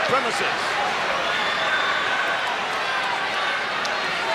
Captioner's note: crowd chattering